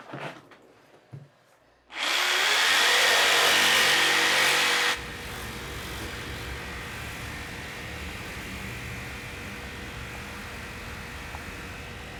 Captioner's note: saw running